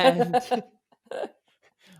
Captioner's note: both laugh